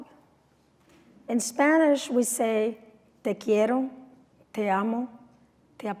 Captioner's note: non-english speech